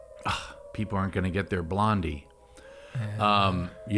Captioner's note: alarm blaring; sighs